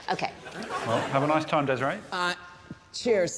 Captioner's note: laughs; audience laughing